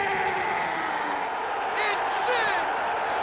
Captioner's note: crowd cheers